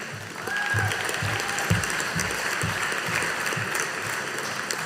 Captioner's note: audience applauding